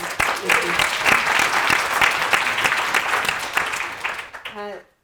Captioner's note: audience applauding